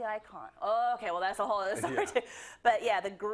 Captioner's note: laugh